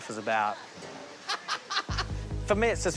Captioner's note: laughs